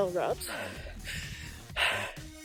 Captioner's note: breathing